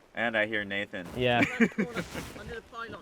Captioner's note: laughing